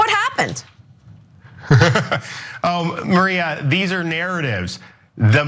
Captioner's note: laugh